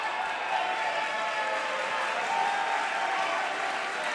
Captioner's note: crowd cheers